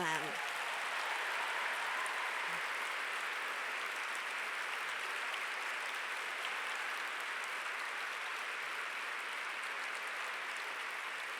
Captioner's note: applause